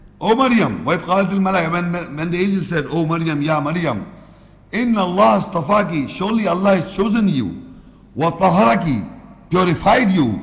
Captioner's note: Arabic